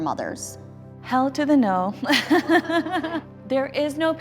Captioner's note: laughs